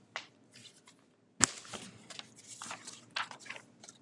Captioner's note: papers rustling